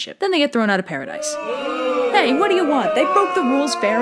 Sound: crowd boo'ing

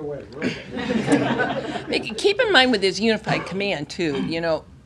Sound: laughter

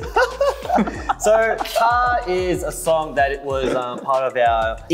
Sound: laughs

